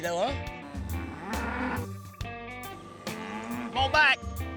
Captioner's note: bull grunting